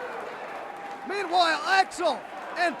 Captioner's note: crowd cheering